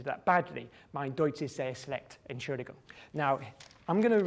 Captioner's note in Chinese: 講德文中